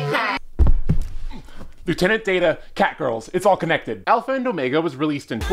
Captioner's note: thud